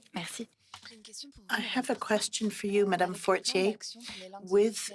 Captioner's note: speaking FRENCH